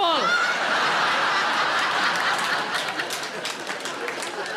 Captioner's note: audience laughing